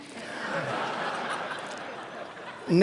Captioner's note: laughter